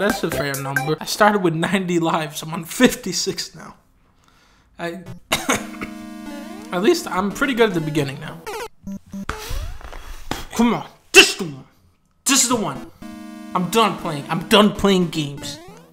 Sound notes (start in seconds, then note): 5.1 cough; 9.8 deep breath